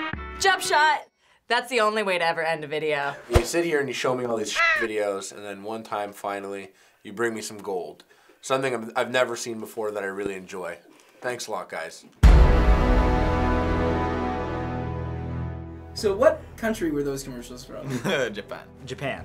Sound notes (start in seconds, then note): 4.5 caw!; 12.2 dramatic chord